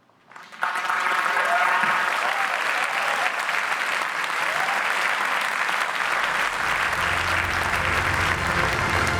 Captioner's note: applause